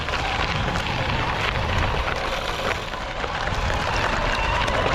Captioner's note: bicycle motor spinning